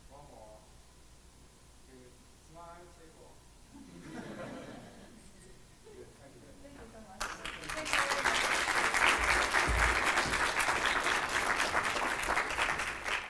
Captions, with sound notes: One more. Smile. (laughter) Good, thank you. - Thank you so much. (audience applause)